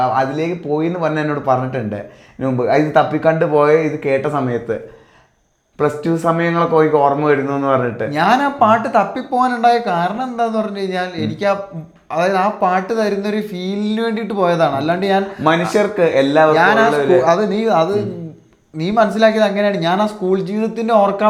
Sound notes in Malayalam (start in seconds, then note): 11.2 തൊണ്ട ശരിയാക്കുന്നു